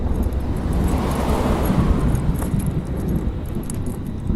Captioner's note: tires rumbling